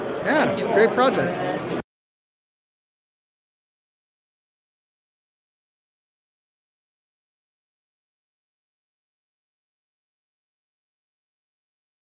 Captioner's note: no audio